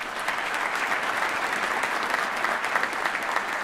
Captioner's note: applause